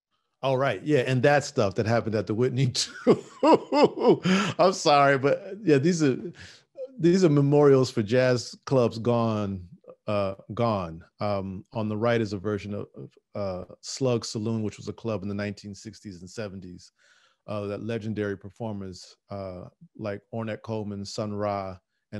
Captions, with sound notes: All right yeah, and that stuff that happened at the Whitney too. (laughing) I'm sorry, but yeah, these are memorials for jazz clubs gone. On the right is a version of Slug Saloon, which was a club in the 1960s and '70s that legendary performers like Ornette Coleman, Sun Ra,